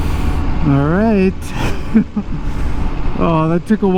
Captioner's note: laughs